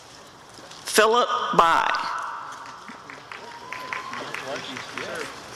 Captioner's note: applause and cheering